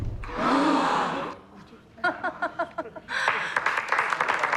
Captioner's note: crowd gasps; applause